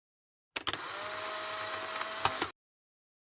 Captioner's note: Sound of Polaroid camera